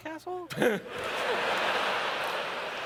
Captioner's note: laughter